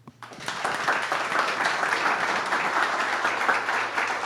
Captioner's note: applause